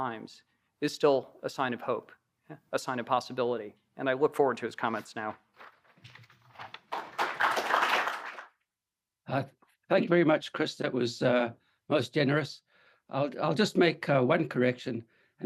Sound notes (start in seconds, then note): 6.6 applause